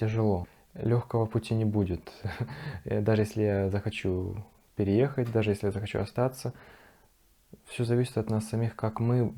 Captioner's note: giggles